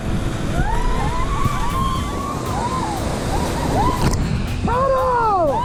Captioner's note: all cheering